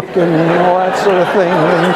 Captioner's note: laughter